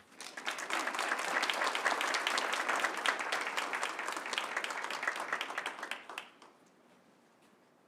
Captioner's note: applause